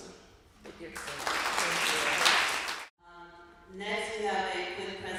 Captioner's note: applause